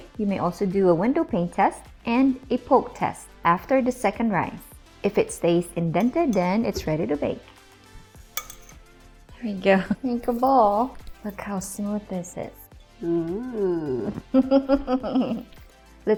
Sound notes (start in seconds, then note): 8.3 bowl clacking; 14.0 chuckling